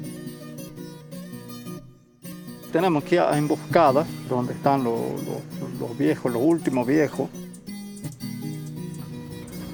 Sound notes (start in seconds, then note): 2.6 speaking Spanish